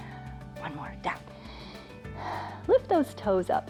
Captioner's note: inhales and exhales